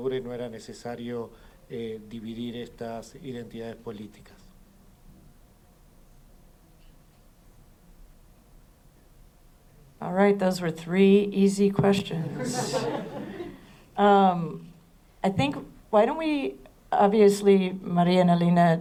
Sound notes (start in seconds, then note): 12.2 risas